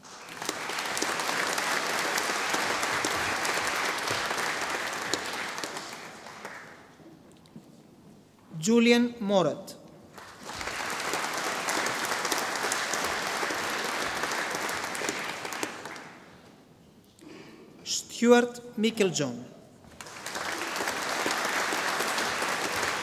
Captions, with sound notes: (audience applauding) Julien Maurat. (audience applauding) Stewart Meiklejohn. (audience applauding)